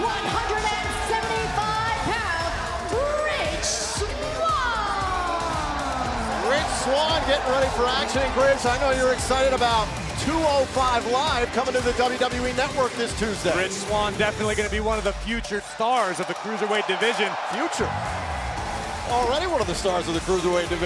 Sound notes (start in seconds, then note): 4.6 crowd cheering